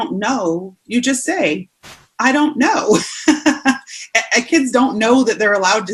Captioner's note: laughing